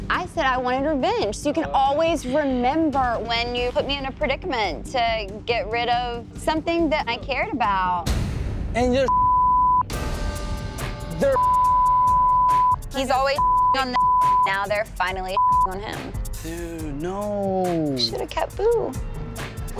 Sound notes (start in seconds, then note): 11.2 beep; 14.1 beep; 15.9 beep